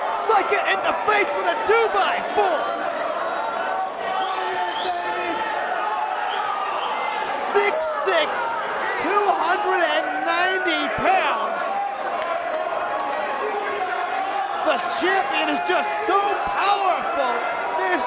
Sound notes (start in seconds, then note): 0.0 crowd cheering; 3.4 crowd vocalizing; 11.6 crowd chattering